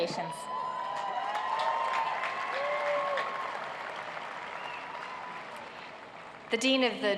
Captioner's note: cheers and applause